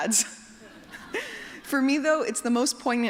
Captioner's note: laughter